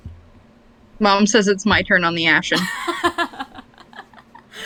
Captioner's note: laughs